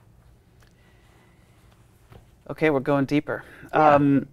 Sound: none

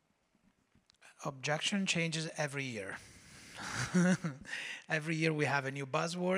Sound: chuckles

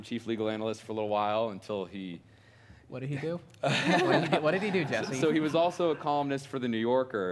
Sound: laughter

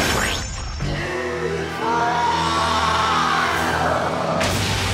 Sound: roaring

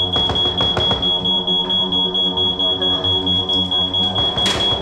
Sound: knocking at the door

